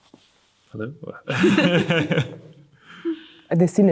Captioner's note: laughs